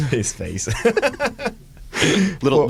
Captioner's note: laughter